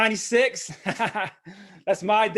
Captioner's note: laughs